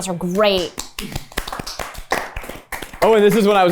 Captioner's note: everyone applauds